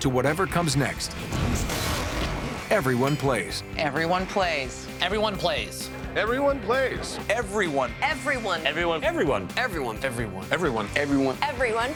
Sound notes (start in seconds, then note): 2.4 grunts